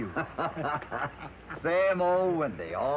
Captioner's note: Hoppy laughs